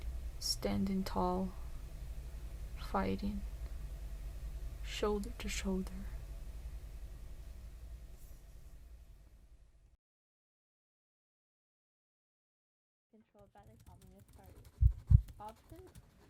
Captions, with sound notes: Standing tall. Fighting. Shoulder to shoulder. [heartbeat]